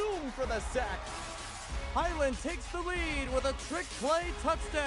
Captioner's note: cheering, then music